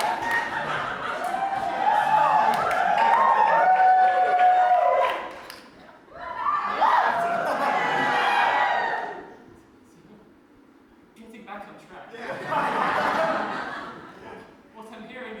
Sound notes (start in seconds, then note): 0.0 cheers, whooping; 8.1 cheers